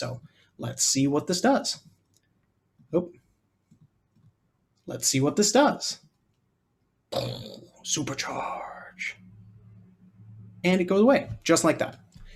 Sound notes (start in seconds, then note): 7.2 growls